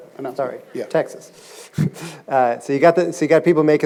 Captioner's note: chuckles